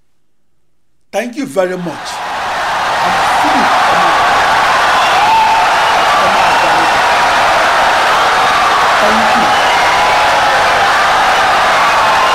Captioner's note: wild applause and cheering for 17 seconds